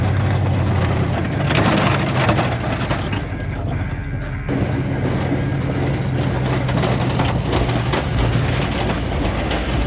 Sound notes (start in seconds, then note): 4.2 engine rumbling continues; 4.2 upbeat rock music continues